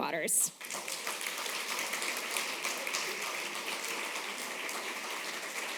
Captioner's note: applause